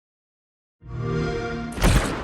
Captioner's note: xbox sound